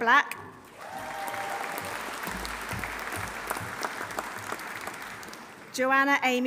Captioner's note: audience applauding; audience cheering